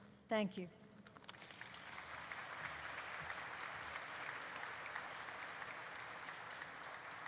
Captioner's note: applause erupts